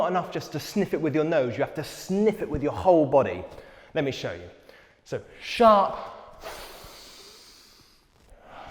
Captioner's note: INHALES deeply